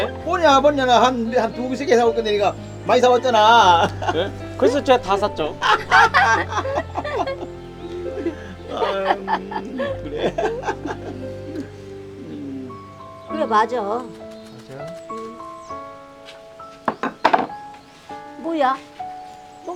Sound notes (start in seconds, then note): 5.7 everyone laughing